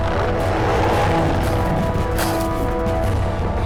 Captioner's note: growling